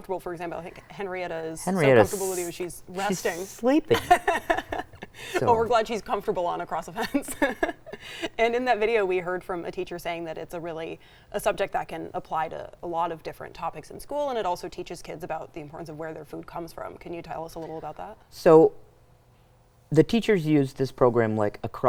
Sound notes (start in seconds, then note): 3.8 laughs